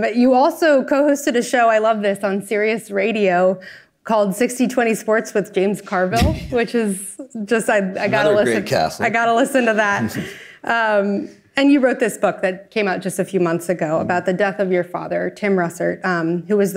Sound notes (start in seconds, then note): 9.8 chuckles